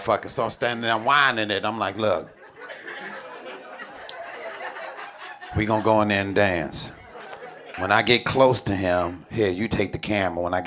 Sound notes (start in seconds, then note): 1.9 audience laughing